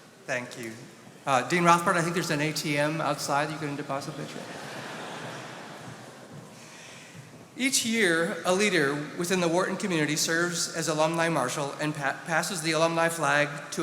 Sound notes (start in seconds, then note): 3.8 attendees laughing